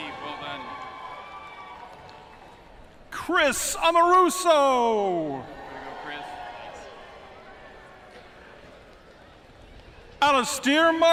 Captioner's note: cheering and applause